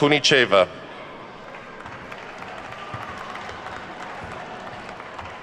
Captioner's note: attendees clapping